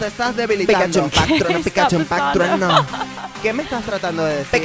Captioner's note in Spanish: risas